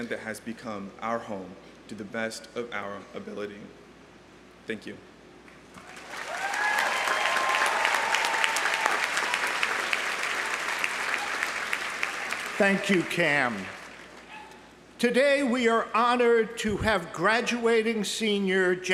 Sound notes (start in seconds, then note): 5.8 audience applauding; 5.8 audience cheering